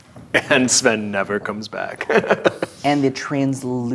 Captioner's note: laughs